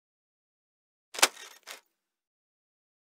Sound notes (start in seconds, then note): 1.2 sound of camera shutter